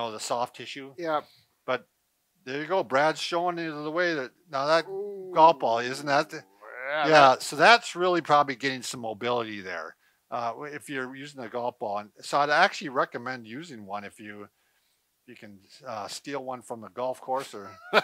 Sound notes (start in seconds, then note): 6.6 groans